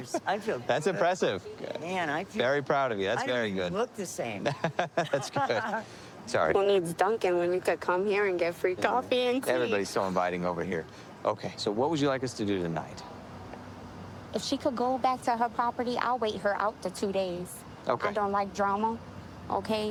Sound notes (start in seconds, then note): 4.4 laughing